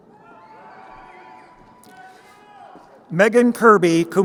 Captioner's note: crowd cheering